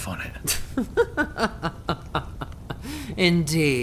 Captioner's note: Ainsley laughs